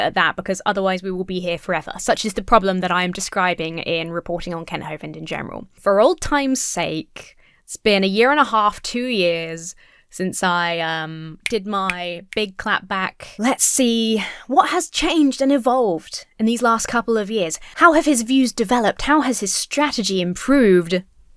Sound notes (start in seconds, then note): 11.4 snaps fingers